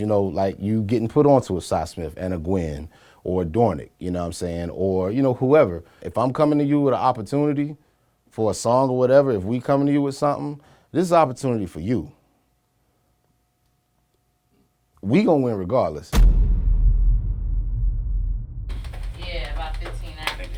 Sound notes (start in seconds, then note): 16.2 air bangs